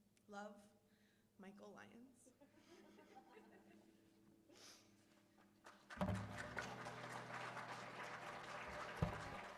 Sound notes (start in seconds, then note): 5.6 applause